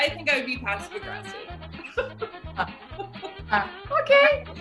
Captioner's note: laughing